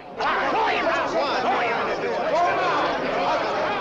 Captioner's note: shouted recriminations